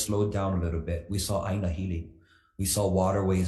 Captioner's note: speaks foreign language